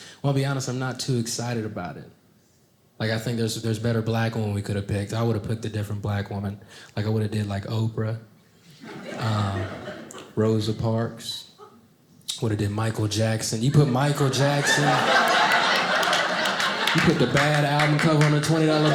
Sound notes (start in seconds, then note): 13.6 audience laughing